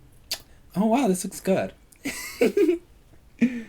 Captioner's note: laughs